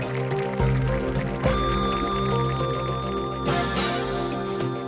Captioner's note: crowd applauding